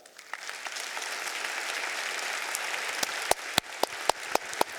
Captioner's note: audience applauding